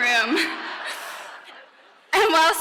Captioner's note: laughing